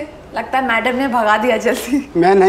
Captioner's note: Laughs